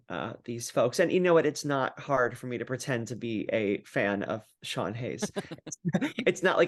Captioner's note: laugh